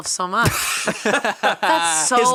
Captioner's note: both laughing